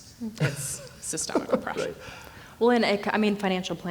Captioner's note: laughs